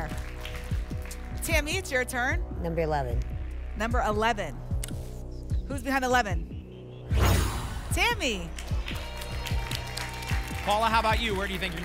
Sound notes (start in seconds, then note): 7.1 whoosh; 8.2 applause and cheering